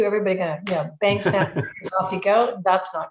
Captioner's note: laughing